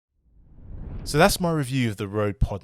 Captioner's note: air whooshing